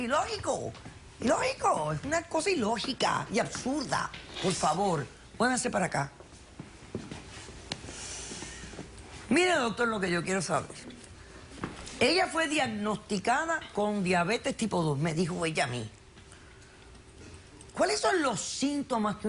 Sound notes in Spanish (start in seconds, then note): none